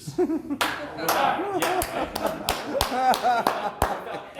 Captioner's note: laughter, one person trying to start a slow clap